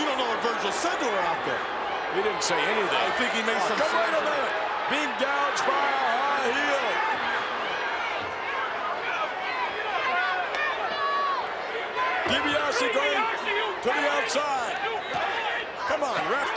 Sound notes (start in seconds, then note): 7.6 crowd clamoring